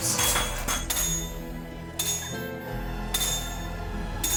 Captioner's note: clattering